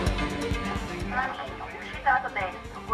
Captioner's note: automated announcements